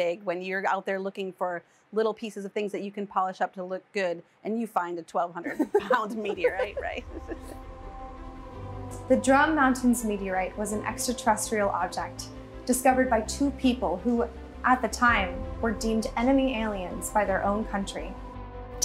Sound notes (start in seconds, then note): 5.5 both chuckle; 6.5 ethereal music